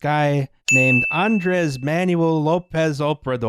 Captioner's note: ding!